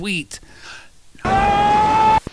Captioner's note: screams